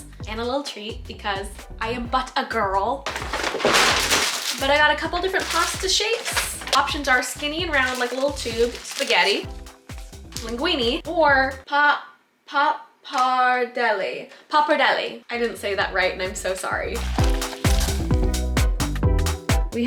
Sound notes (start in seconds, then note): 3.0 bag crinkling; 17.0 upbeat music